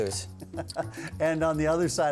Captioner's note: laughs